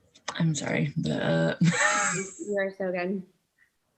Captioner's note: laughs